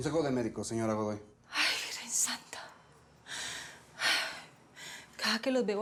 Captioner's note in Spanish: exhala